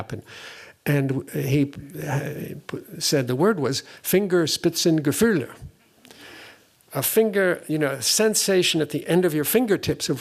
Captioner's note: german